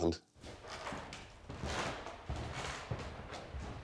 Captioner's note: footsteps, creaking wood